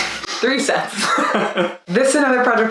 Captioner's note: both laugh